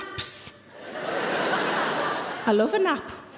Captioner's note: audience laughing